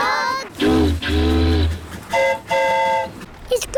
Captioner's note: boat horn honks; train horn toots